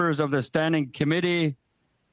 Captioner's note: speaking French